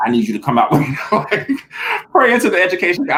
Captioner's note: laughing